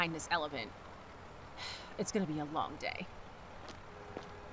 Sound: sigh

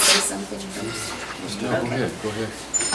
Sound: overlapping chattering

